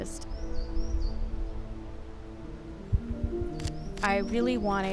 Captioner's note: birds chirping; gentle music